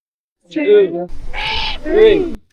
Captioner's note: Screech